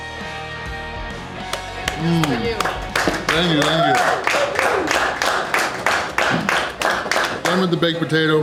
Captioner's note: crowd clapping